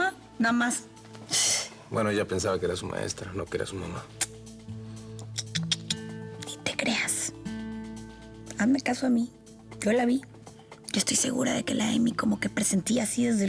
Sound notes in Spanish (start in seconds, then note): 5.1 chasquidos bucales